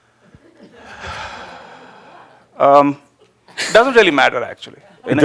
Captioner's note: a few chuckles; sighs deeply